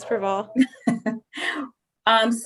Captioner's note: laughter